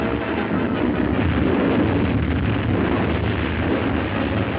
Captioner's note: landslide rumbling